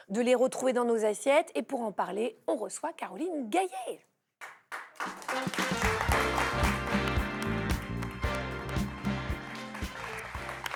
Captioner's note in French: applaudissements